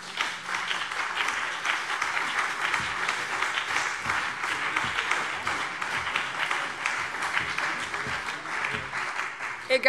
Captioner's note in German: Beifall BÜNDNIS 90/DIE GRÜNEN und CDU